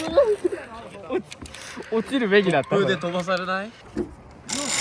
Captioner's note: laughs